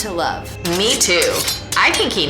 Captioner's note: knives clattering